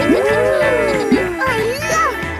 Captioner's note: kids gasping and laughing